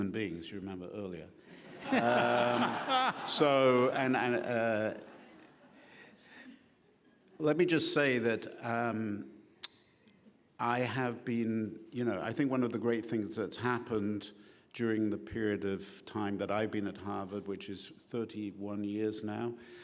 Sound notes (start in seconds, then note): 1.7 laughing